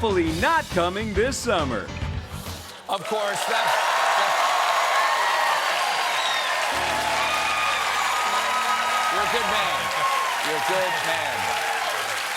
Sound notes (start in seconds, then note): 2.9 cheers and applause